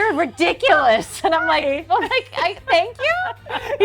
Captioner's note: laughs